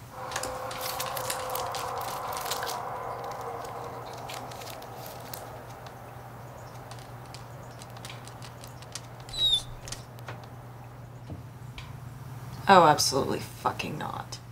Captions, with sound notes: *dog whimpers* Oh, absolutely f*cking not.